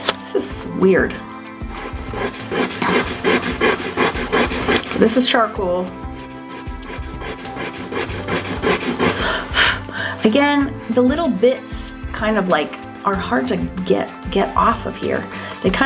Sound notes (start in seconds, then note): 1.6 eraser rubbing; 9.7 blows